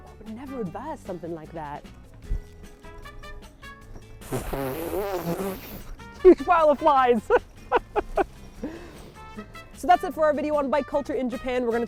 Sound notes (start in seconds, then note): 4.1 blows raspberry sound; 7.1 laughter